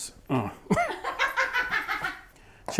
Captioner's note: laughing